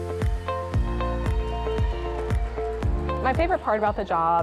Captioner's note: upbeat music; audience cheering and applauding